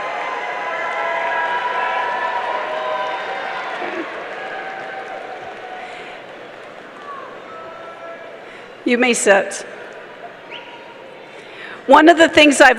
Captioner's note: applause